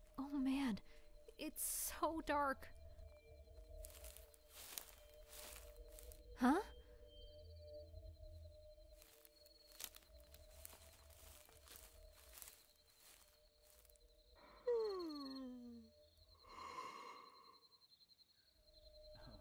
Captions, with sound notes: Oh man... it is SO dark. Huh? *yawn*